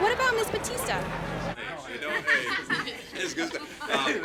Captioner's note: people talking together